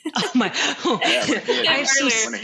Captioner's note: laughs